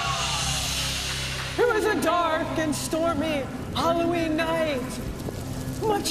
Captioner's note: cheers and applause; echoing